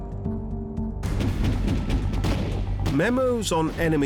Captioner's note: gunfire